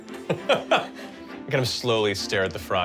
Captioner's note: laughs